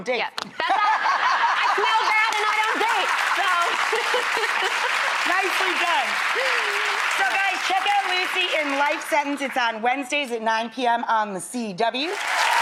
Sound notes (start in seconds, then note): 3.5 audience laughing and clapping; 12.0 audience clapping